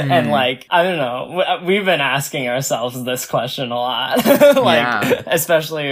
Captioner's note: laughs